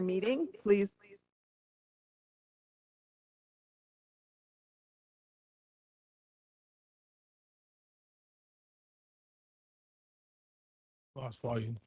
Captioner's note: loss of audio